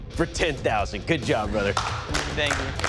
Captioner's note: applause